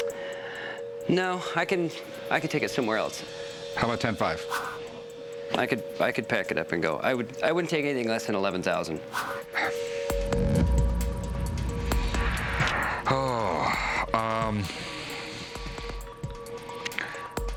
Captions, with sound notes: No, I can... I could take it somewhere else. How about ten five? I could-- I could pack it up and go. I wouldn't take anything less than 11,000. [dramatic music] [sighs] Uhm...